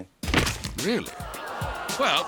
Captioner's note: crowd gasping